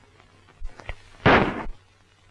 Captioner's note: gunshot